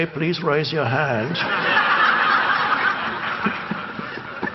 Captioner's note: audience laugh